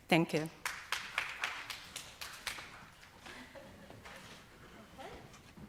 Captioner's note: audience applauds